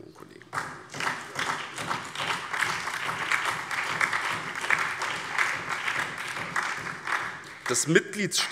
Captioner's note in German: Beifall BÜNDNIS 90/DIE GRÜNEN, SPD, DIE LINKE und vereinzelt CDU